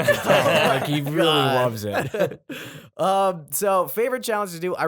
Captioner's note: laughter